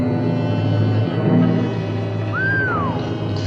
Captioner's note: Joe Whistles